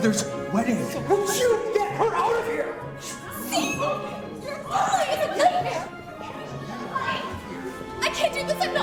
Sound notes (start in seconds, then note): 7.0 guests murmur